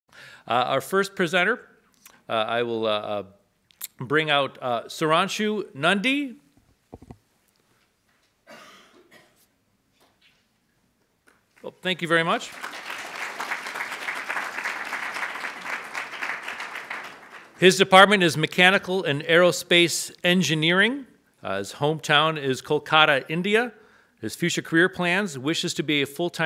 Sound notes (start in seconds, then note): 14.6 audience applauds